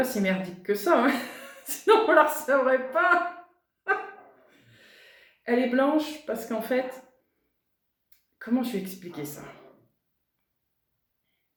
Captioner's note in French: rires